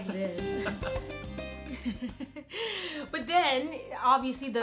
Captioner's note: laughs